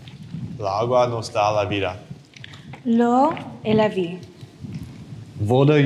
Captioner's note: speakers speak foreign language